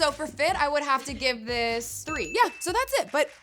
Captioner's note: bell ringing